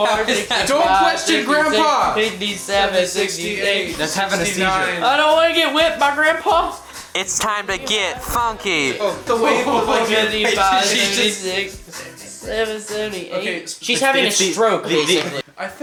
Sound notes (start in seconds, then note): 7.0 distorting mic; 9.8 laughing